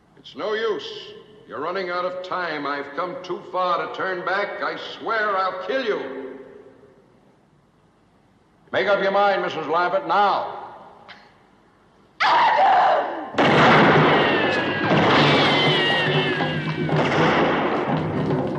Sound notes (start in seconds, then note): 13.3 gunshot